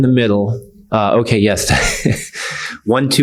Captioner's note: laughs